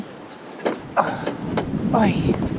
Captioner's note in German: Seufzen, Stöhnen